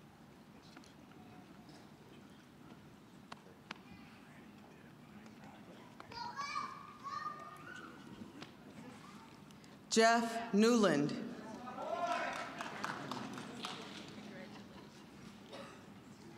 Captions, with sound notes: Jeff Newland. (scattered cheering)